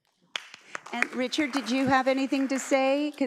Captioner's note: audience applauds